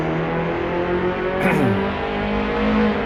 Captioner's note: clears Throat